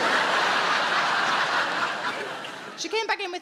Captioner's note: audience laughing